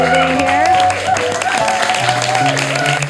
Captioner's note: audience applauding, cheering